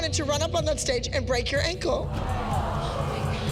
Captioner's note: audience groans